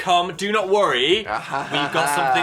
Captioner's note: Dan laughing